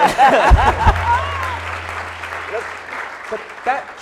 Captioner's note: applauding